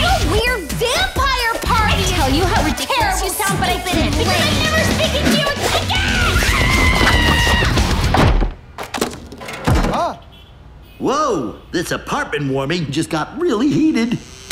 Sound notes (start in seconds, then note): 5.8 both screaming; 8.8 doors closes